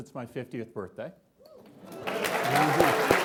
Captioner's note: clapping